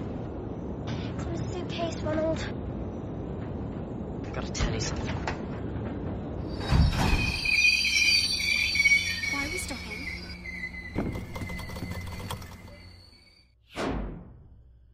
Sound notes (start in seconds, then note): 5.8 train stops; 10.8 lights flickering